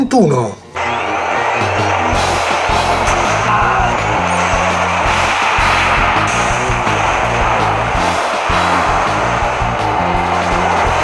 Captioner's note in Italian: Applauso